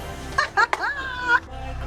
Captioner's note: laughs